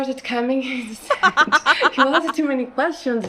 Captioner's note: chuckles